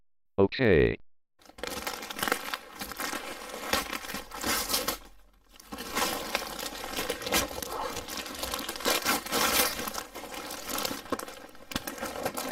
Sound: present unwrapping SFX

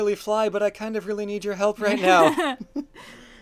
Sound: laughs

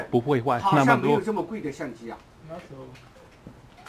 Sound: mandarin

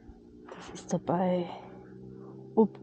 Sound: motorboat in the background

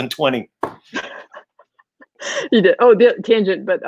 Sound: laughing

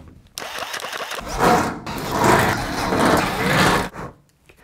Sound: drill whizzes; metal clanking

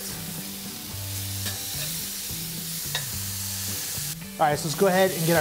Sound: burgers sizzle

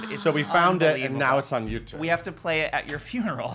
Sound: laughs

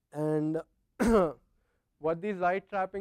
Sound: cough

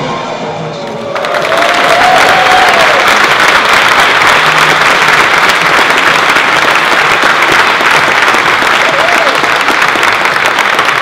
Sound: applause

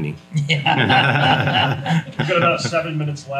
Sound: everyone laughs

